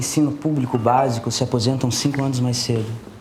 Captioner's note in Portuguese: Barulho de WhatsApp